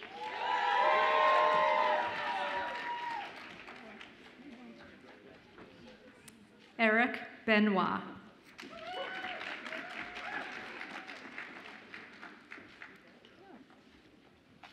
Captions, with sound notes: (audience applauds and cheers) Eric Benoit. (audience applauds and cheers)